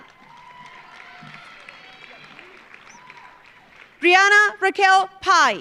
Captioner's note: audience cheering; audience applauding